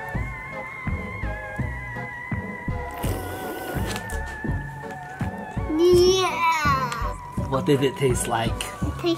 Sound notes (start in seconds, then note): 0.1 quirky music; 2.9 slurping